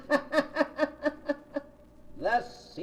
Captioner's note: laughter